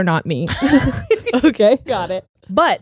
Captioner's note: both laughing